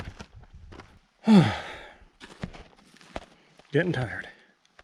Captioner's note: sigh